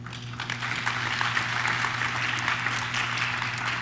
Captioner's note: audience claps